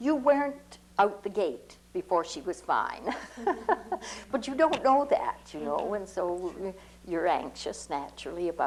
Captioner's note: laughs